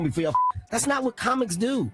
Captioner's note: beep